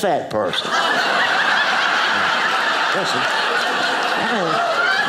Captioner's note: audience laughing